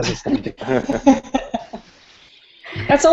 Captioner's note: laughter